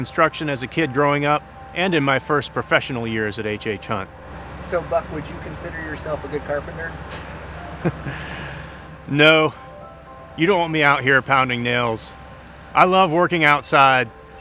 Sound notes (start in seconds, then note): 6.6 laughs